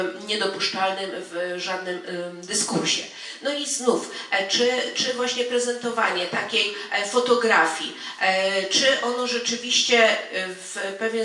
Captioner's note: speaking in foreign language